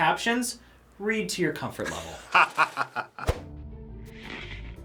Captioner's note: laughs